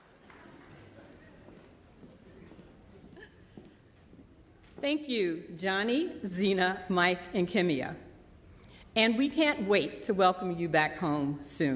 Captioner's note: applause